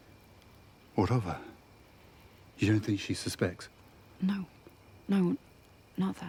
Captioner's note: none